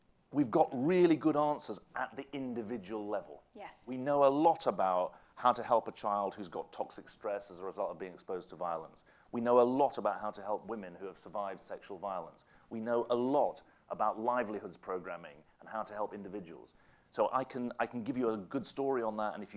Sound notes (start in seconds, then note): none